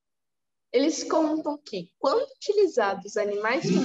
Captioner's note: speaking portuguese